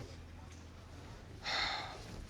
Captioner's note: sighs